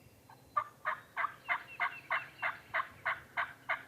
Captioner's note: turkey calls